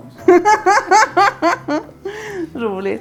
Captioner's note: laughter